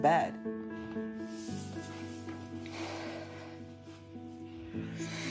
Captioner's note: inhales, sighs